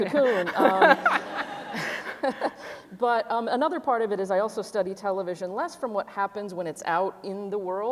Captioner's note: laughter